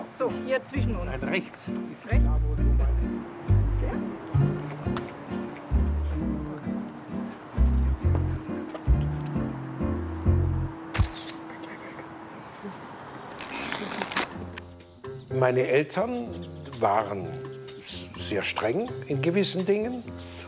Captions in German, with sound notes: So, hier zwischen uns. - Nein, rechts. (Ruhige Musik) (Kameraklicken) Meine Eltern waren sehr streng in gewissen Dingen